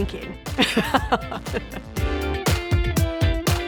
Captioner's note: laughing; upbeat music